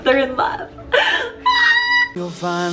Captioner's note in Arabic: صرخات كريستالية